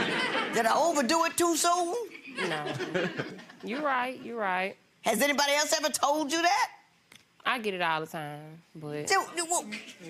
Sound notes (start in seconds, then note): 0.0 audience laughing; 3.0 chuckling